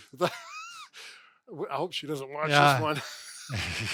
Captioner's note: laughs